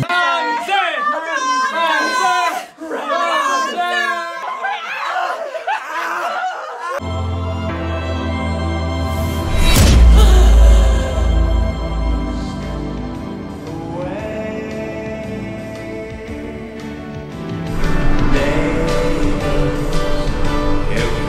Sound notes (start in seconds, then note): 0.0 attendees yelling; 4.5 attendees screaming; 7.1 soft music; 9.2 aura whirring; 10.0 Danielle gasping; 12.6 soft music; 16.5 bright music